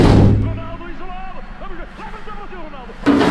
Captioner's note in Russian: звуки спортивной программы